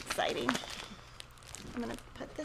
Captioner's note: paper rustling